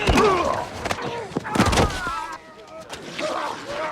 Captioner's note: men grunting